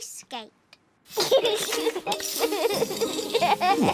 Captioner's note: giggles